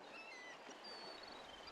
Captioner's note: sea birds